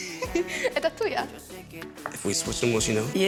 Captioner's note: speaking Spanish